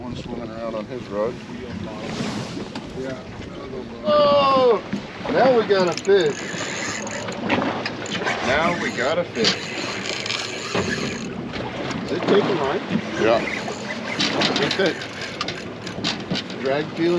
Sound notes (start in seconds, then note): 2.3 water lapping; 5.5 reel spinning; 10.5 reel spinning; 14.9 chuckling